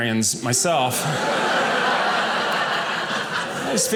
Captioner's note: audience laughing